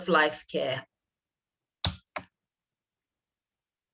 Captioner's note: keyboard sound